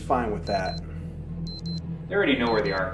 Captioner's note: device beeping